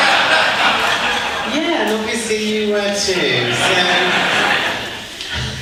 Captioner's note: audience laughs